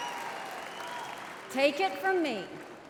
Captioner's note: cheering; applause